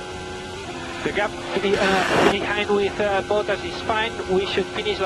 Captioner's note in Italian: interferenze